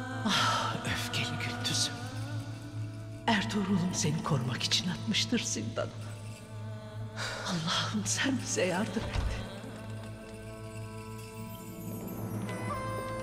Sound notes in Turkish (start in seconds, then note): 8.8 Kapı açılma sesi